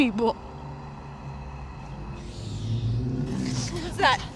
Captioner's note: growling